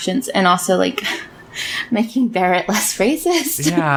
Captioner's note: laughs